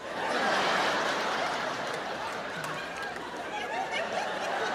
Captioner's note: audience laughing